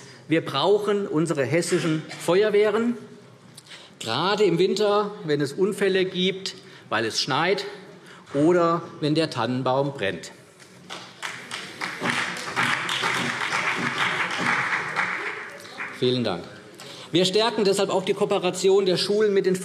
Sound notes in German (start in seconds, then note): 10.8 Beifall CDU und vereinzelt BÜNDNIS 90/DIE GRÜNEN